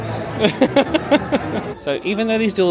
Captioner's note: laughs